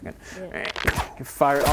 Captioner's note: ptoo